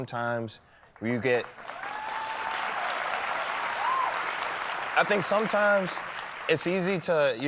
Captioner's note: applause